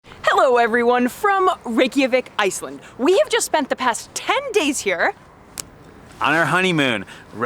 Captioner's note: snap